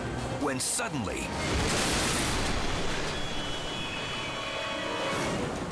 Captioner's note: helicopter crashes